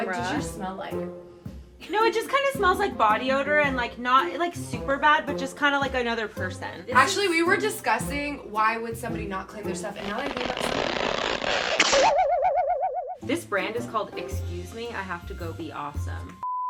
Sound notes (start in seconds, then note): 9.9 creaking sound; 12.0 sound of spring